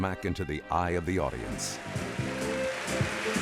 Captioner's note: applause